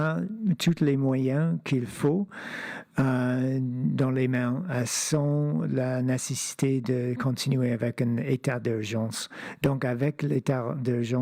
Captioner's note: speaking French